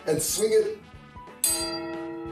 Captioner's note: clang